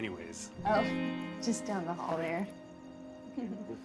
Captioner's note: chuckles; both chuckle